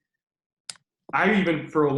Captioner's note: clicking